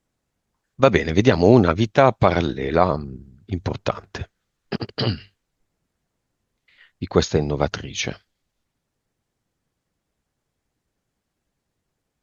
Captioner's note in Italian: schiarire la voce